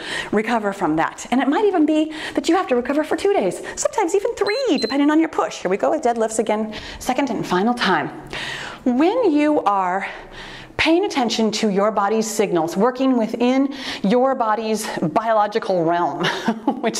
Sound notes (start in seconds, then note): 4.4 timer beeps